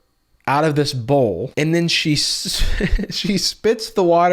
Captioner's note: laughs